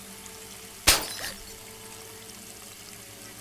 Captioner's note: glass Breaking